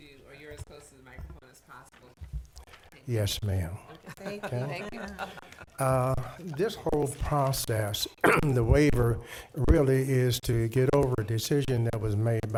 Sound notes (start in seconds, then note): 3.9 people laughing; 8.2 coughs